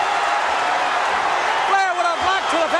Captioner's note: audience cheering